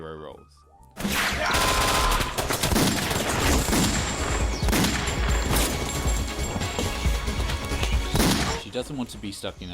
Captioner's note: gunfire